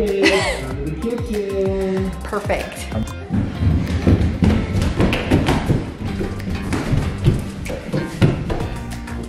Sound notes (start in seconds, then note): 3.0 feet stomping